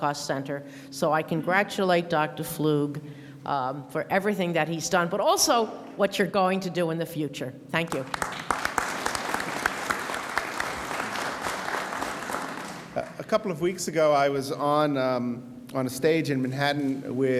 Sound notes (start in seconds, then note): 8.0 audience applauds